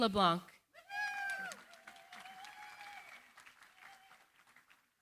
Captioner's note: cheering, applause